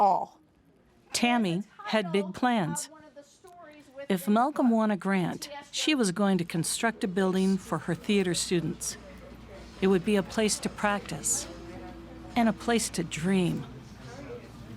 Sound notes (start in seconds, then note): none